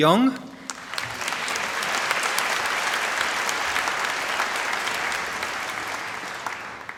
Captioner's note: applause